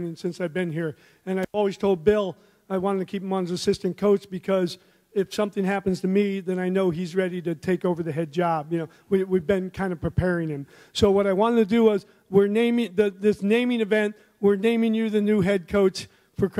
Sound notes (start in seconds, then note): none